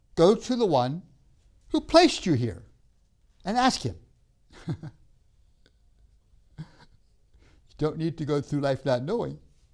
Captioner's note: laughs